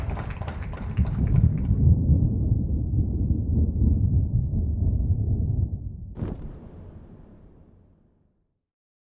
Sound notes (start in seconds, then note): 0.8 thunder booming